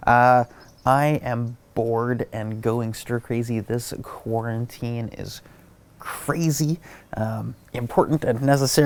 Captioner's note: none